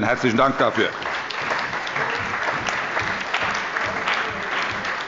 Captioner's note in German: Allgemeiner Beifall